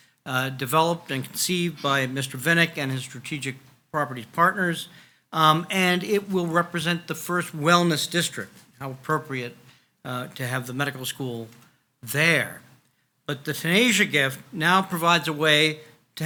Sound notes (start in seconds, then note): none